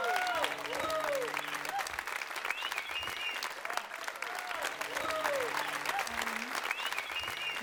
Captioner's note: crowd applause